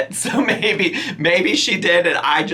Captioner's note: laughing